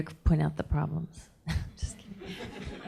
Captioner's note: audience laughing; chuckles